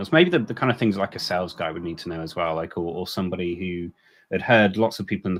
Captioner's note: none